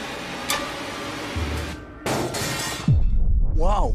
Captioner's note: clanks